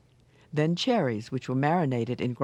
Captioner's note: voiceover